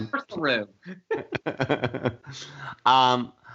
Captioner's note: laughter